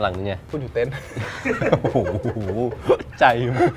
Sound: laughs

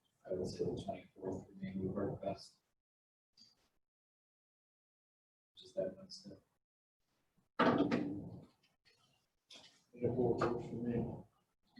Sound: silence

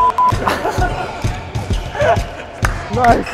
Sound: Lin Dan and everyone laughs

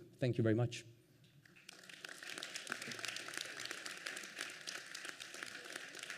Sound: applause

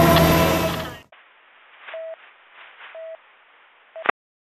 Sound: busy Tone

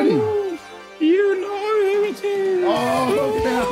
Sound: ghost voice

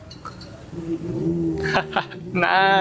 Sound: chuckle

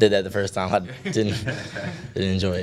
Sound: laughter

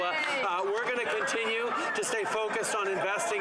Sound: some Applause

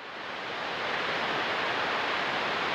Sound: water falls

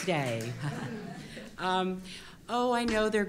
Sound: applause

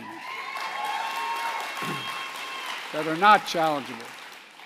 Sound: applause

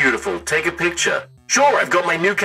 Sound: robot voice

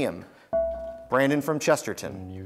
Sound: buzzer beeps

